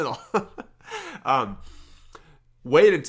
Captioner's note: chuckles